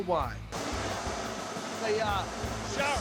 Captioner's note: steam blowing